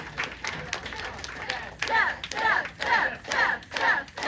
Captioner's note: crowd chanting